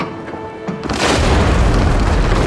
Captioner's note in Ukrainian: Вибух